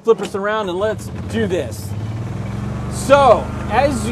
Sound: golf cart whirs

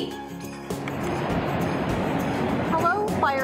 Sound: water splashing

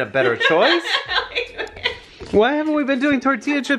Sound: laughs

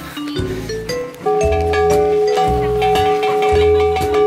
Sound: glass sculptures make noise when you hit them

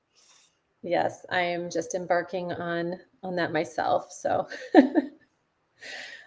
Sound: laughs

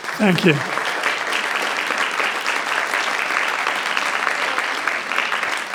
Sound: generous applause rings

